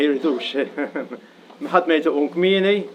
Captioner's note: laughs